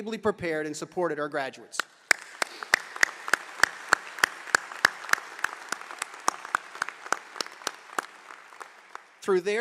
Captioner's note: applause